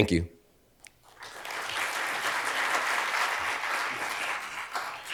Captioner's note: attendees applauding